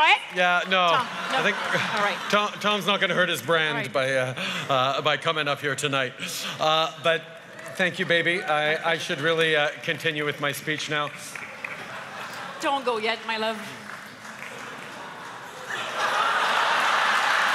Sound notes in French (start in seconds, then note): 0.8 Rires; 11.3 Rires et applaudissements enthousiastes